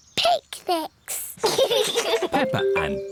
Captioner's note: both laugh